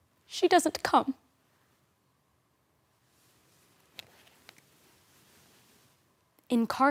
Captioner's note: rustling